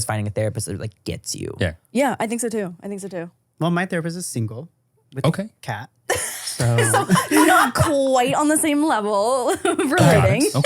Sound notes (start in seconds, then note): 6.1 laugh